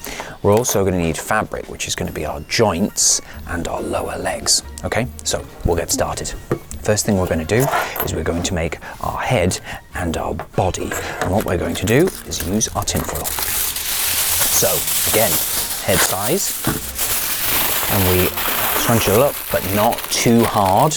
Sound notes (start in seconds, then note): 13.3 tinfoil rustles